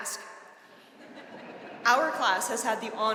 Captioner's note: audience laughing